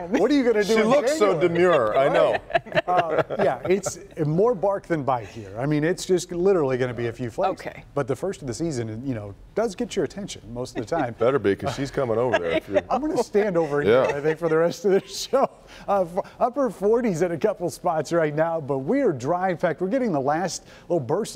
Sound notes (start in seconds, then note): 1.5 laughter